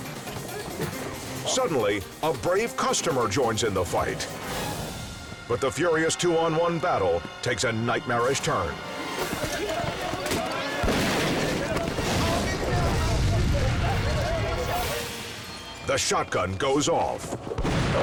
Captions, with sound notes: Suddenly a brave customer joins in the fight. But the furious two-on-one battle takes a nightmarish turn. (gun shots) (men chanting) The shotgun goes off.